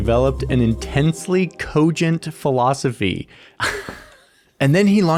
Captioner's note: laughs